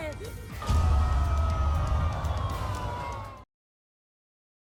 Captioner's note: audience yelling